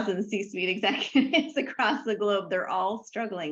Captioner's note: laughs